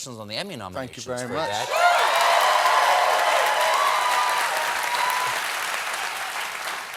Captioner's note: cheers and applause